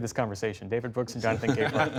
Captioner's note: laughter